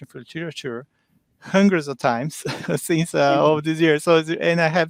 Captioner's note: chuckles